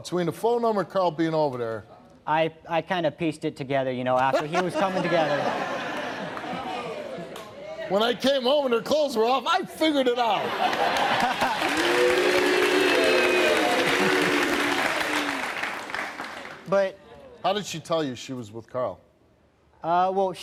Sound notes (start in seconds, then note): 4.3 laughs; 10.4 laughs; 10.5 audience clapping